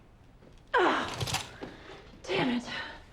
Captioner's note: grunts